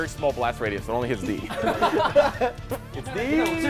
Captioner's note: laughter